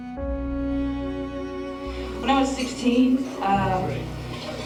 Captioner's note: Lisa on microphone